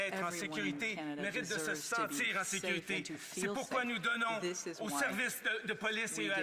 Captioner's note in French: voix de l'interprète